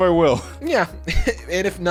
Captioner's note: chuckling